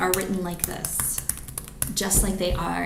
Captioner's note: keyboard clicks